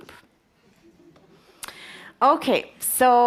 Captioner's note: audience chuckles